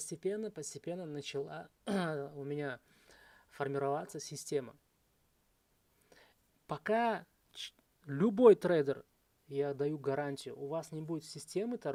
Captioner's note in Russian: откашливается